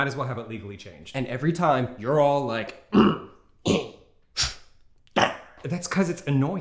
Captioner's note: sniffs